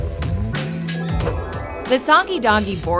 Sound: magic twinkling

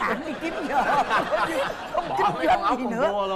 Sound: laughing

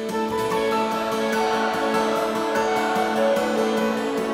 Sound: audience chanting

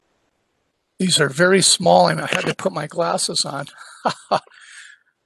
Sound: laugh

